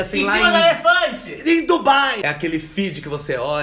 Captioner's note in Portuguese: grita